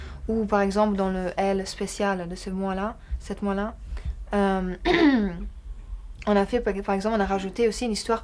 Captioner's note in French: raclement de gorge